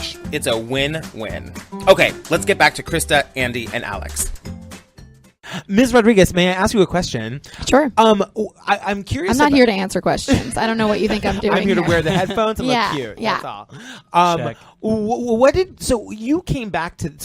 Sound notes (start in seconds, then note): 10.2 laughter; 10.3 laughs